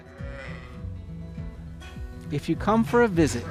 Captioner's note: sheep baaing; country music